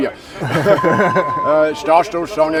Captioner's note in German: lachen